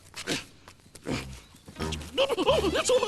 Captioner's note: grunting